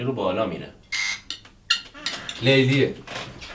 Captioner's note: doorbell rings